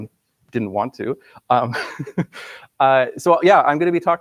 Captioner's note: laughs